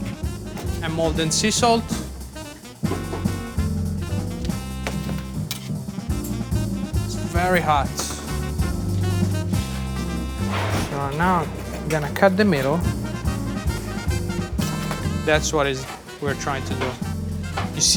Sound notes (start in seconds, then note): 2.7 classical music; 8.4 classical music; 10.5 pizza whooshes; 13.1 classical music